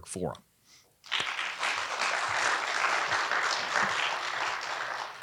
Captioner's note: audience applauding